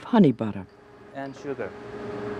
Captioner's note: voiceover